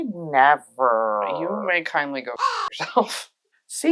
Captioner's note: caw